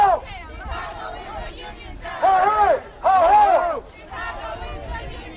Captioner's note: chanting